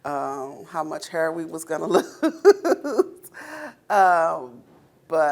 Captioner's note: laughing